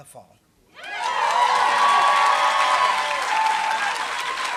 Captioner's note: applause